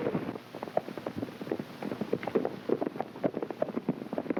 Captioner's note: hooves clopping